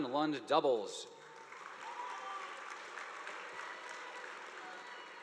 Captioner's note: audience applauding